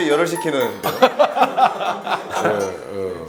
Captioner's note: bwahahaha